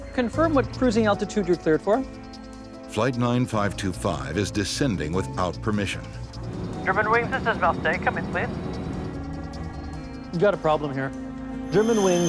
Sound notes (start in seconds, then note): 3.0 voiceover